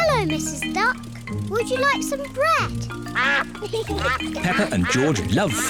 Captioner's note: ducks quack